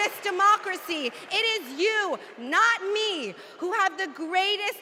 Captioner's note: cheers and applause